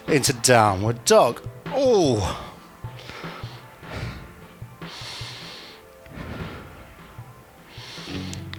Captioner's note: breathing